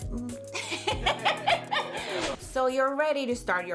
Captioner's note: laughing